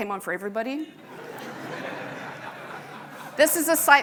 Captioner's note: audience laughing